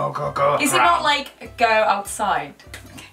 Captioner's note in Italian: tentativo di suonare inglese